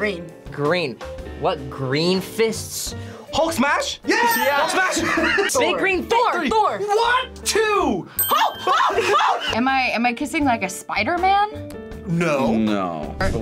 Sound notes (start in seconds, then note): 8.2 bell rings